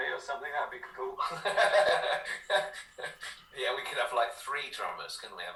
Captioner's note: laughter